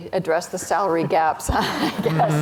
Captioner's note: chuckles